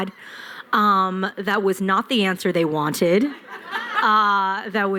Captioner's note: laughter